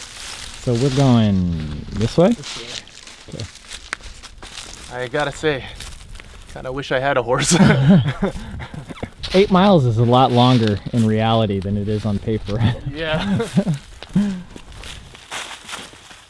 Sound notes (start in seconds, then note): 0.0 laughs; 7.5 both laugh